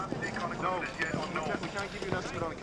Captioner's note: man over radio